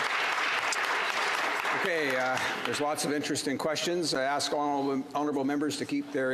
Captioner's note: some Applause